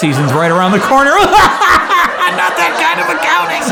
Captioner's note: audience laughing; man laughs